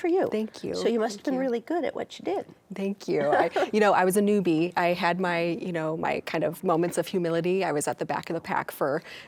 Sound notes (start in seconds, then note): 3.2 laughs